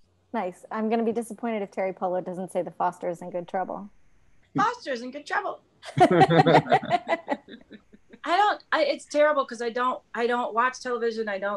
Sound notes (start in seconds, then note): 5.9 laughs